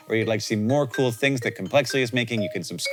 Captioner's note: none